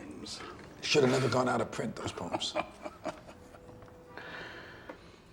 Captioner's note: chuckling